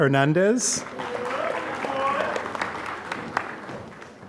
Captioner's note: applause